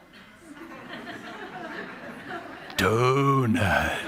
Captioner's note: laughter